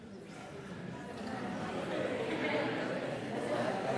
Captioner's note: audience chattering